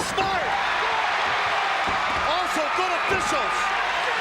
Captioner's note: audience cheering